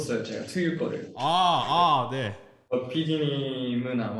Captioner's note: makes noises to hide that they're super embarrassed